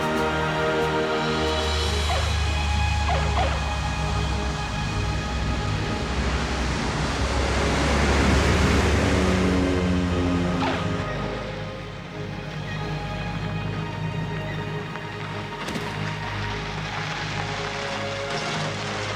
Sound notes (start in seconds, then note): 8.0 plane engine roaring; 15.7 car engine roars